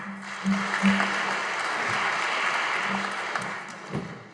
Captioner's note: audience applauding